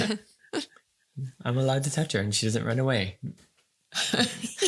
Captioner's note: laughing